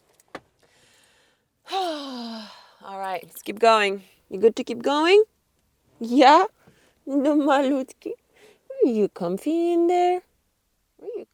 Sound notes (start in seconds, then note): 1.6 sighs; 7.2 speaks in a foreign language